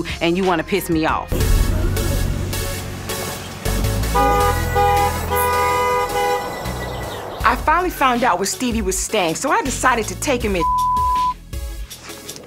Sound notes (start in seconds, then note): 3.9 horn blows